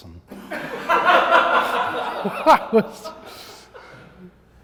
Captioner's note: audience laughs